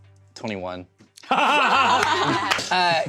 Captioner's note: laughs